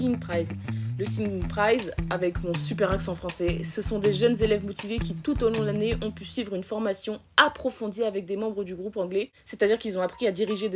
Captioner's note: really nice french accent